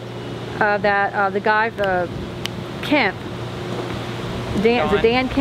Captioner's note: fingers snap